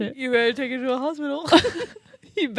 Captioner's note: laugh